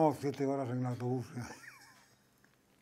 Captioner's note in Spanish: ríe